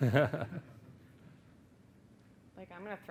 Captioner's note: laughing